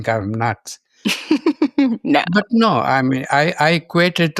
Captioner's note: laughs